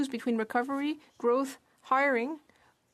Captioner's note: speaking French